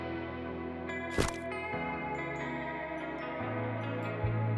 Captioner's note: camera snaps